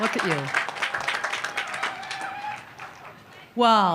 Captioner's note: continued applause